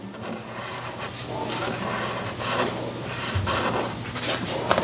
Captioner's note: marker scratching